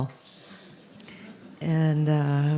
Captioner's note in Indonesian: Tertawa